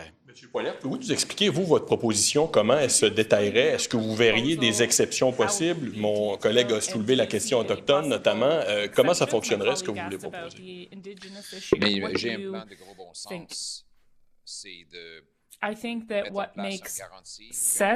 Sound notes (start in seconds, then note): 7.1 speaking French